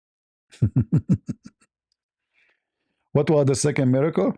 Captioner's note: ketawa